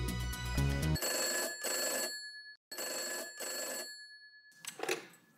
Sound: phone ringing

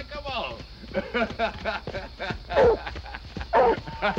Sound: laughter

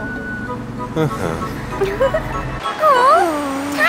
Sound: giggles

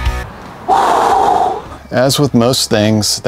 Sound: upbeat music; man sighing

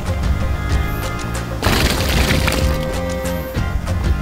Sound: big sloppy splash

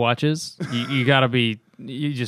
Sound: laughter

